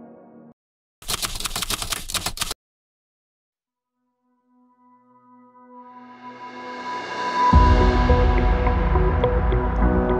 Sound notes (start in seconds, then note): 1.0 typewriter clicking; 7.5 bright music